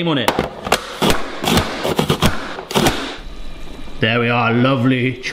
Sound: prep kit chopping

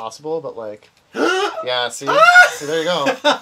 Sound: gasps

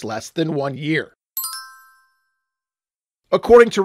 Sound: chimes

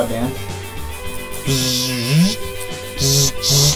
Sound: robot noises

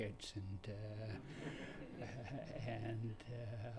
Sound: laughter

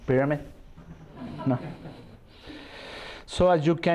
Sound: laughter

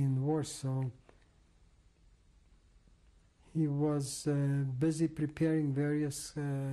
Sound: pauses for 3 seconds

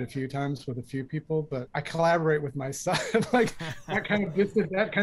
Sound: laughter

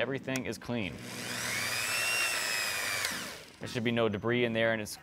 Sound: rotary tool engine hums

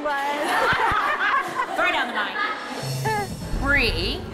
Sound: laughing

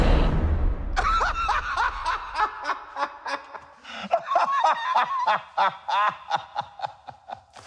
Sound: laughing

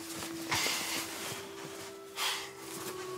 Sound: sighs

